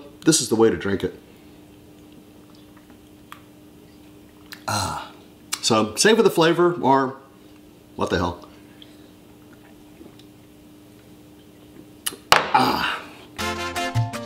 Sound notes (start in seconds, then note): 9.6 gulp